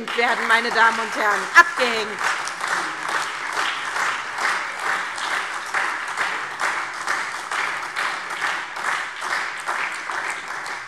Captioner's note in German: Beifall SPD, AfD, Freie Demokraten und DIE LINKE